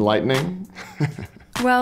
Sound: chuckles

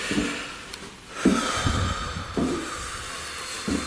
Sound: deep breathing

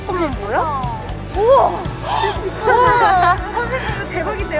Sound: exclamation

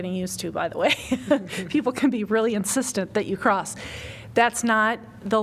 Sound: laughter

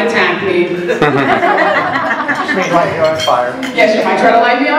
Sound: laughter

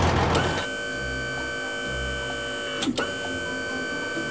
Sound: machine whirring

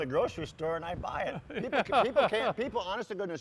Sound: laughing

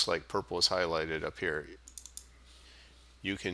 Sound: sound of mouse clicks

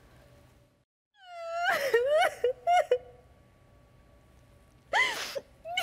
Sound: Natasha loudly sobbing

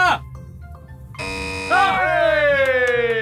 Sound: Ethan screams; buzzer buzzing; men cheers

